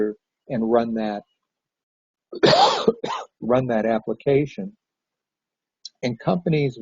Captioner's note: coughs